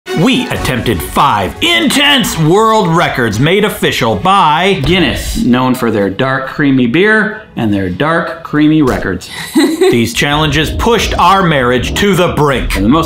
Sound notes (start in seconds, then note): 9.3 person laughs